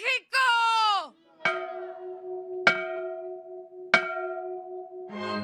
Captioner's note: bell Ringing